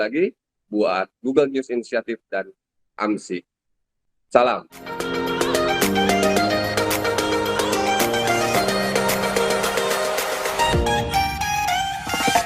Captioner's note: speaking indonesian